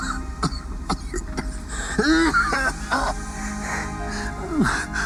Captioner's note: coughing